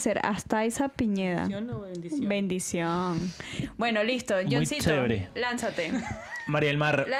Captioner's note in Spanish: risas